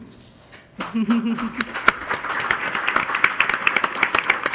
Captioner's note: crowd applauding